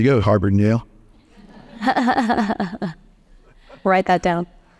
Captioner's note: audience laughs